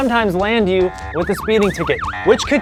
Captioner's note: siren sound